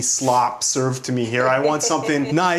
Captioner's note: laughing